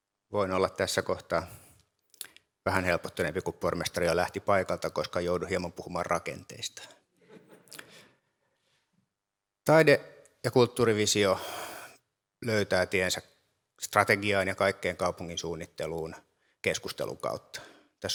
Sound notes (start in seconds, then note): 7.2 laughter